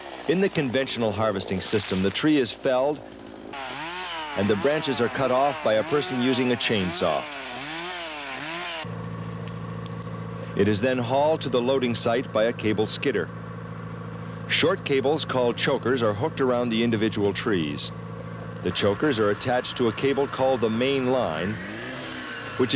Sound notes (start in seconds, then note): 7.5 chainsaw buzzing; 9.2 engine running